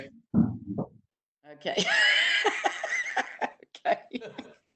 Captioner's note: laughs